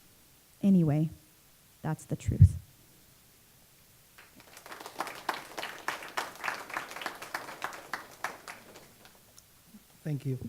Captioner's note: clapping